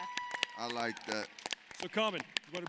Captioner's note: applauding